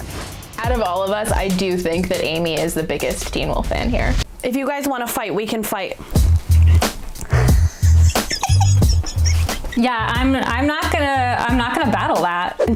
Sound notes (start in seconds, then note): 7.2 laughing; 7.2 upbeat music